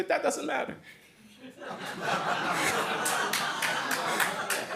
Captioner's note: laughter